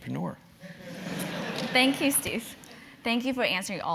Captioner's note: laugh